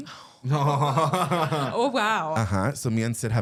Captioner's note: giggling